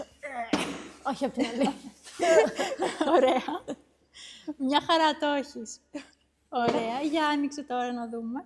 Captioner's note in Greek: γέλια